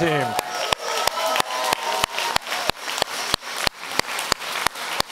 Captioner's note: audience applauds